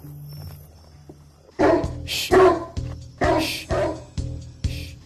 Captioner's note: deep barking